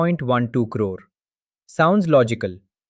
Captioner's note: pause